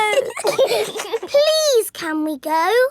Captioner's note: giggling